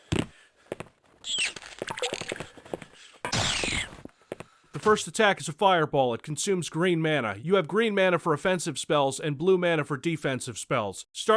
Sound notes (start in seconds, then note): 1.2 rat squeaks in pain; 3.2 death squeak